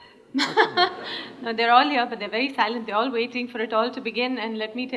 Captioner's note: laughter; laughs